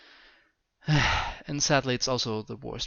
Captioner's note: sigh